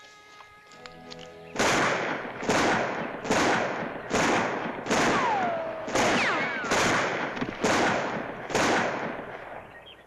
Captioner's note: soft music; gunshots